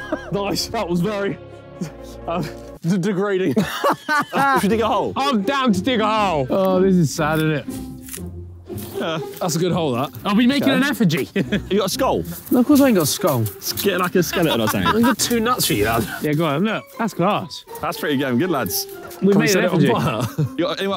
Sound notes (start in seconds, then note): 3.5 Vik laughing